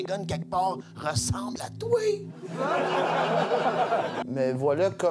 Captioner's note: laughs